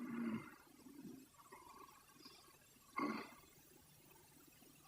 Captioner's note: Charlie shoring